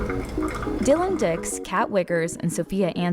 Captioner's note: coffee gurgles